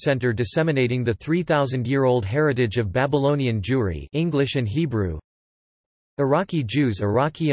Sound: english and Hebrew

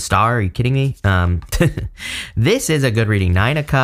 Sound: giggling

